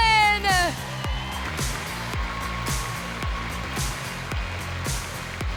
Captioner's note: audience cheering